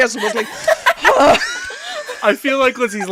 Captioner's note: laughter; dramatic sigh